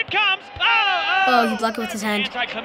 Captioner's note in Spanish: Gemido comentaristas deportivos